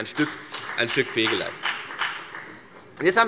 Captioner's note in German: Beifall bei der FDP